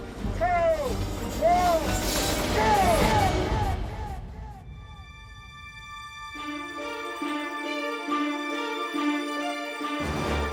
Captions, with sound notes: Three, two, one. [ECHOES] Go! [CAPTIVATING MUSIC PLAYING]